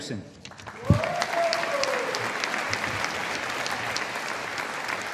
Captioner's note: audience applauding